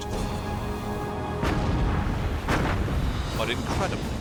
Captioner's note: explosions